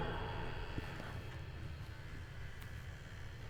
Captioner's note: door creaks